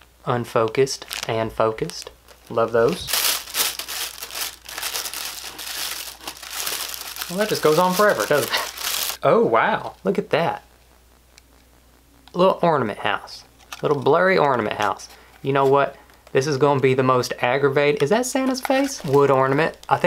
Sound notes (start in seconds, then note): 2.2 paper rustling